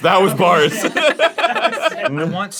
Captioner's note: everyone laughs